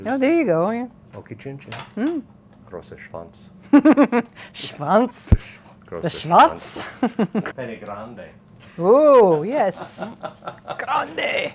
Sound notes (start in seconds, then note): 3.2 speaking a foreign language; 9.8 laughing; 10.6 speaking a foreign language